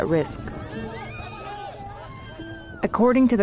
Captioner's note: shouting